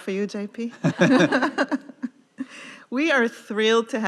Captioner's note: laughing